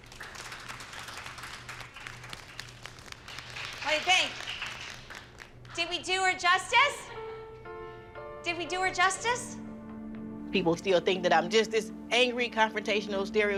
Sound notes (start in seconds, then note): 3.3 applause